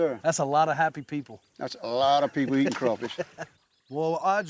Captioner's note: chuckling